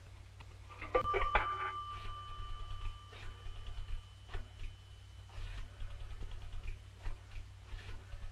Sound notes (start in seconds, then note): 0.9 phone dings; 0.9 dial whirring